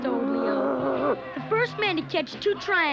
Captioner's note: growling